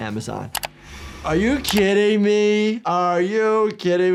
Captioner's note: computer mouse clicks